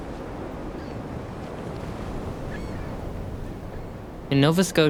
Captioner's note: seagulls squawking